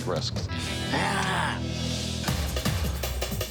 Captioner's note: growls